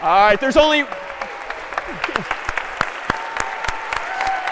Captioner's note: applause